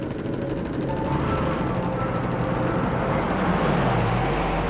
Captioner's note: engine revving